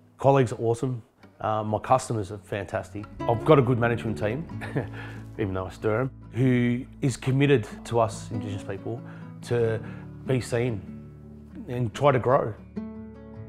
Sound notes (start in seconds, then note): 4.5 chuckles